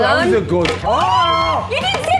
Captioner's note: screaming